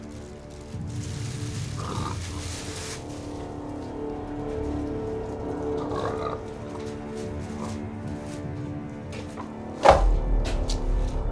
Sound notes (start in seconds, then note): 1.4 pig snorting